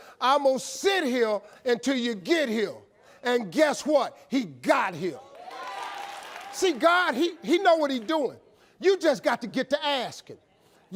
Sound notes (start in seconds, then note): 5.2 audience cheering